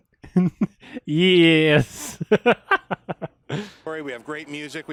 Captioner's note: laughs